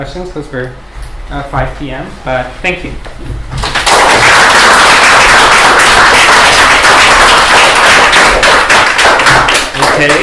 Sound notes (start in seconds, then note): 3.6 applause